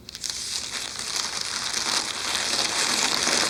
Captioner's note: paper rustles